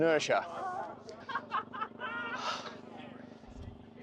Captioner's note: laughing